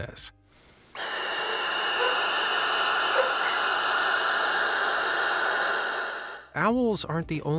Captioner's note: owl hisses